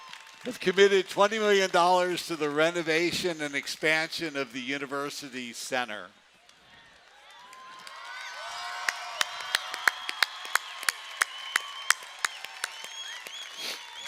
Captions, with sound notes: Has committed $20 million to the renovation and expansion of the University Center. [CHEERING]